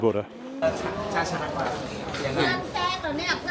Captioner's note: chatter